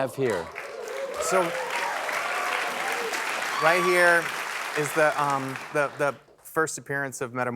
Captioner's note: applause